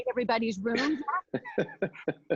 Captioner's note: laughs